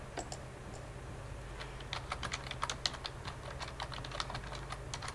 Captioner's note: keyboard clacking